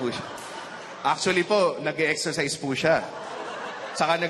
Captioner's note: laughter